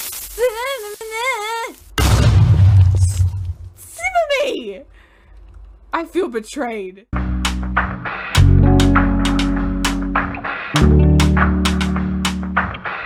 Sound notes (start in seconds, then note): 2.0 creeper bomb & more exasperated noises; 7.1 outro music plays